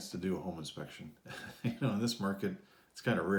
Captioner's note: laughs